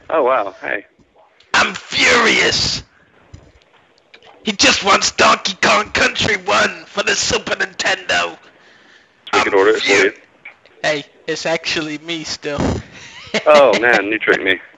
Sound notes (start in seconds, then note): 11.1 normal voice